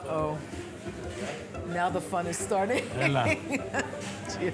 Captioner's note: laughs